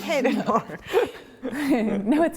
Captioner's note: laughter